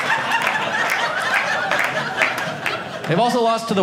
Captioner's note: audience laughing; audience applauding